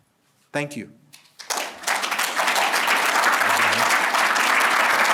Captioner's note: applause